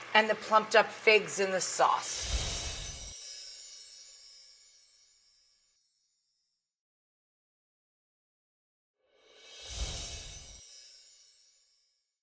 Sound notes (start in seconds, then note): 1.7 sparkling; 2.2 whooshing; 9.0 whooshing; 9.6 sparkling